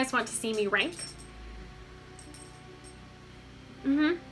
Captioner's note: dog tags jingle